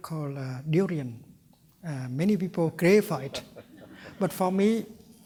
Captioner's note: laughter